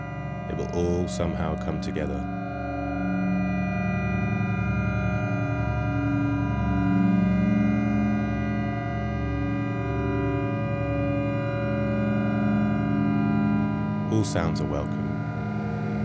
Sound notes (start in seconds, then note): 3.2 ambient tone sounds